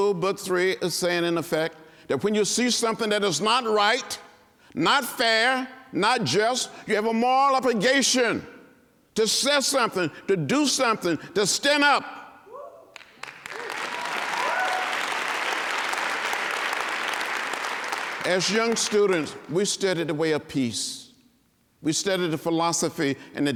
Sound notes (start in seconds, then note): 9.5 applause and cheering